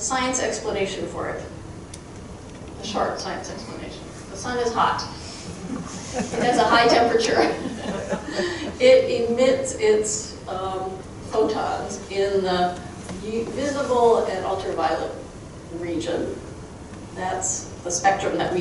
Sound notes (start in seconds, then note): 5.6 chuckling; 5.6 crowd chuckling